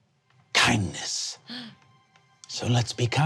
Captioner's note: gasps